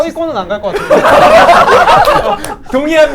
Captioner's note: laughing while applauding